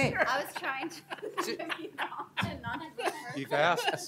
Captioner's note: laughter